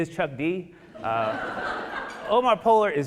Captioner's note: audience laughing